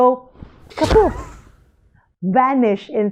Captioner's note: kapoof!